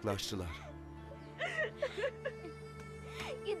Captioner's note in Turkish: Ağlama sesi